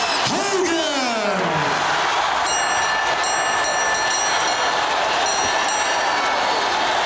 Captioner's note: audience cheering; bell ringing